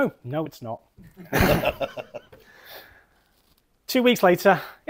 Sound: laughter

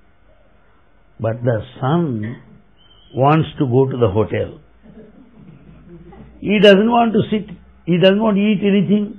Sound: laughter

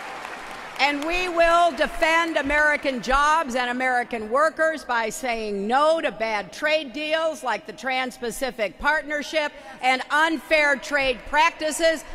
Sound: applause

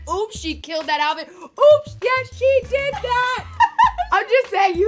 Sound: laughs

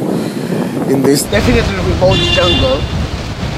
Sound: car honk

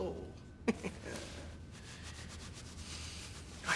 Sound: chuckles again

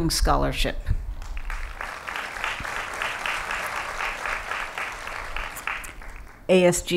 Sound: applause

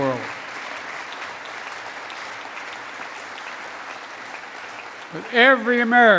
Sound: applause

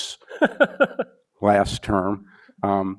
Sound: laughs

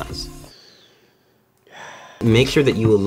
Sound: sigh

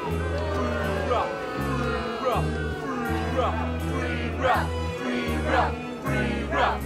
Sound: crowd

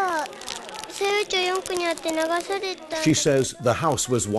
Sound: speaking japanese

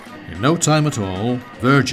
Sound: jet whirring

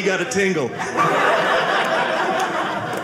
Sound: audience laughing

